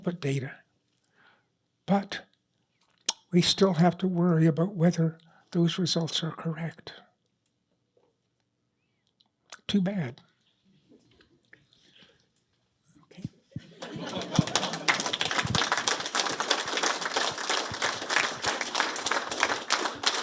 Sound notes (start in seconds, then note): 13.7 applause